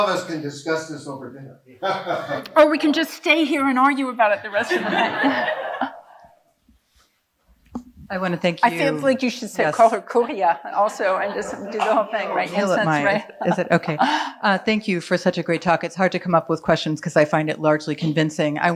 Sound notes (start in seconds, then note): 1.8 laughing; 4.5 audience laughing